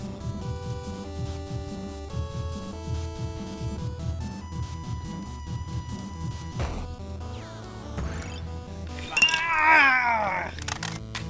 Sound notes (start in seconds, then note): 8.8 game beeps and trills; 9.0 groans; 11.1 game clatters across the ground